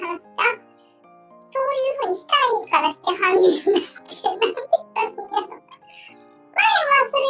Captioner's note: laughs